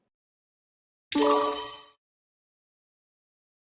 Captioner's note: sonido de timbre correcto